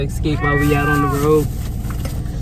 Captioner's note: meow